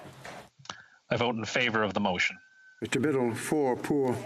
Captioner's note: speaking French